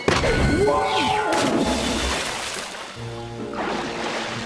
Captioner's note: water splashing